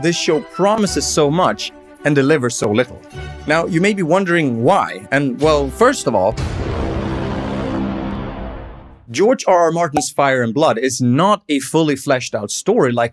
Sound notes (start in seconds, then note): none